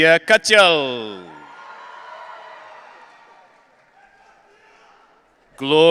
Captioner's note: audience cheering